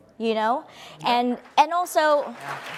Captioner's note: audience applauds